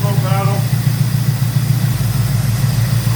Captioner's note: engine idling